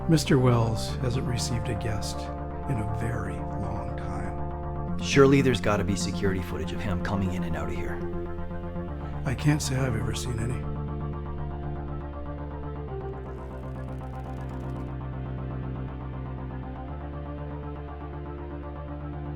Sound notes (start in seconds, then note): 13.3 shoe leather creaks; 13.5 dark synth music